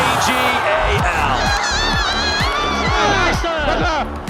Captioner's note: commentator in English; crowd cheering